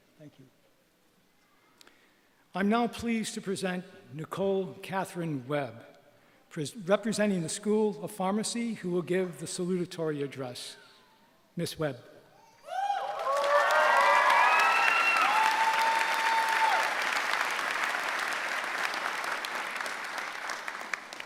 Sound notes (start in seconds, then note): 12.6 cheering